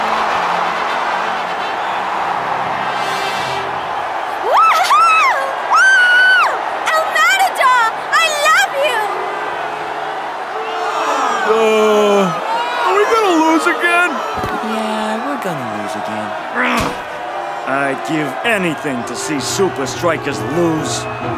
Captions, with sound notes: (girl cheers) - El Matador I love you. (crowd boos) - Are we gonna lose again? - Yeah, we're gonna lose again. (growls) - I'd give anything to see Supa Strikas lose.